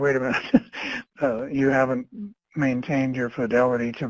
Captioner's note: laughs